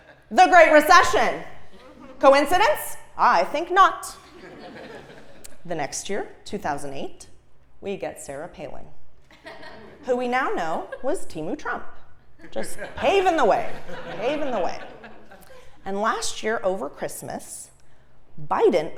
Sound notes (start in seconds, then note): 1.7 laugh; 4.2 laugh; 9.2 laugh